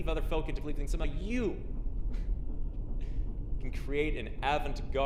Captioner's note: chuckles